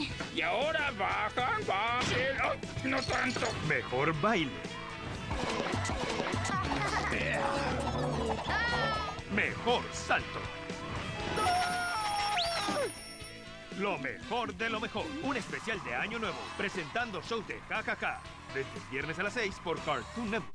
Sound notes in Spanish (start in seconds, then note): 5.4 risas, sonidos alegres y música de fondo; 11.4 Jon grita